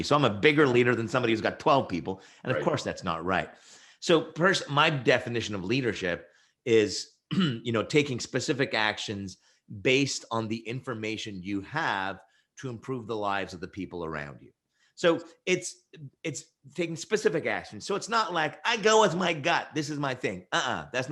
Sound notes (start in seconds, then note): 7.3 clears throat